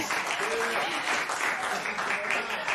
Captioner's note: applause